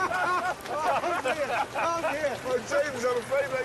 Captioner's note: richard and jeremy laugh; all three laugh